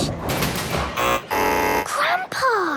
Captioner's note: buzzing